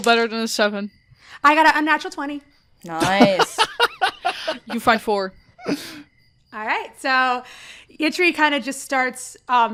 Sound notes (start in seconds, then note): 3.0 laughs